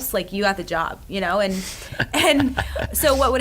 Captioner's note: laughs